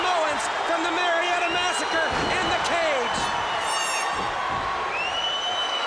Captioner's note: crowd cheering